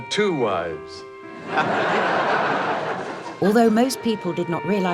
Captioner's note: audience laughing